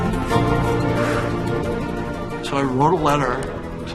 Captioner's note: exhales